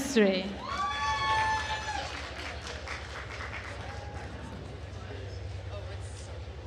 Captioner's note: attendees cheering and applauding